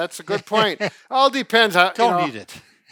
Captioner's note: laughing